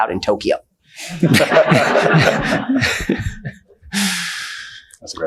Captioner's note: attendees laughing